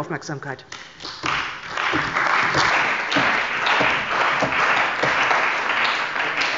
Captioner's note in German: Beifall bei der CDU und dem BÜNDNIS 90/DIE GRÜNEN